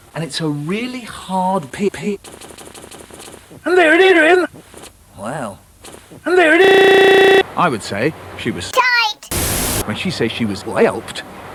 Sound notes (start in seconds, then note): 9.1 static